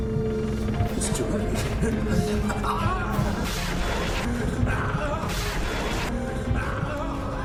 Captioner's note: laser blasts; cries out